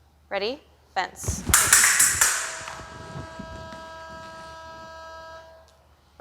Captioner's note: clicking